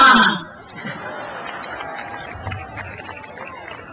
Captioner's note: crowd laughs